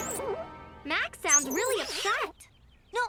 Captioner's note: dramatic music; bike squeaking